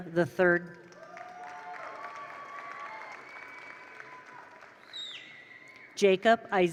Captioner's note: attendees applaud; attendees cheer